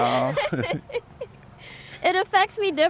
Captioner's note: laughs